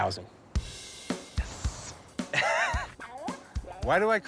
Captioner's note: laughs